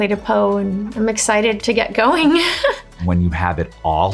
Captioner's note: laughs